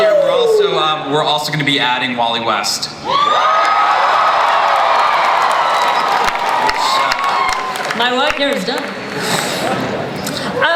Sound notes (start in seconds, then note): 3.0 audience cheers